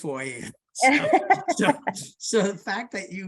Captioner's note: laughs